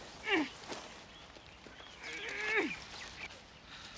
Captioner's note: ladies groaning